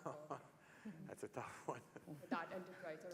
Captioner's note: laugh